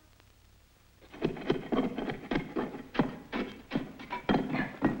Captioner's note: tool thuds and scrapes